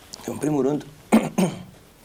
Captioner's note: cough